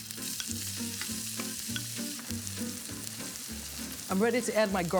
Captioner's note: sizzling in pan